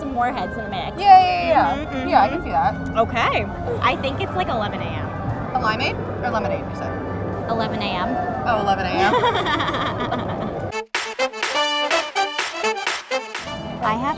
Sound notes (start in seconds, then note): 9.0 both laughing; 10.6 upbeat jazz music